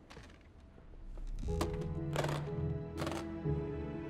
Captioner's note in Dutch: koffer klikt dicht